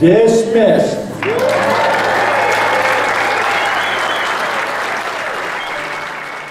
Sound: applause and cheering

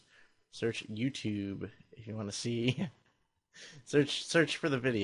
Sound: chuckles

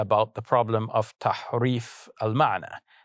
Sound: speaking foreign language

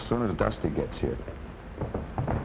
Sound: thumping

